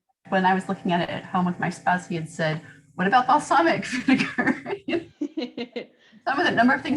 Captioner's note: laughter